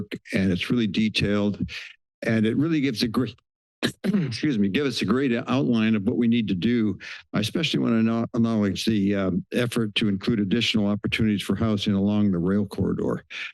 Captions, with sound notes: and it's really detailed and it really gives a great, [clears throat] excuse me, gives us a great outline of what we need to do, especially when I acknowledge the, um, effort to include additional opportunities for housing along the rail corridor.